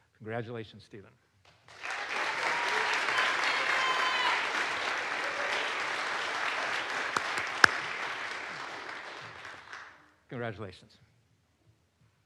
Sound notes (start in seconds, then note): 1.7 audience applauds; 1.8 audience cheers